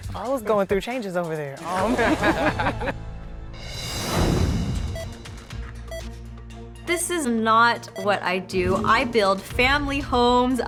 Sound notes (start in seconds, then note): 1.6 laughing; 4.9 timer beeping